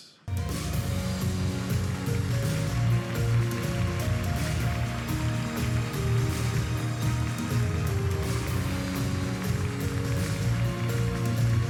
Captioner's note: applause